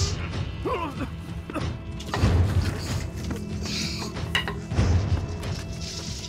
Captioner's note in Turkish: Üflüyor; Boğuşma sesleri